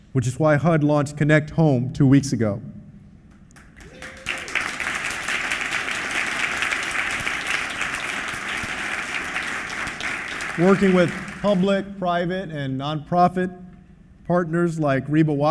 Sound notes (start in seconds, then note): 6.6 applause